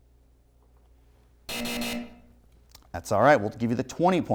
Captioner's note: buzzer